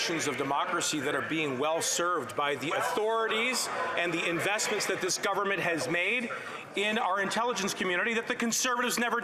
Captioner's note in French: voix de l'interprète